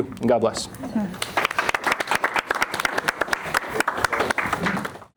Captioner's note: crowd applauding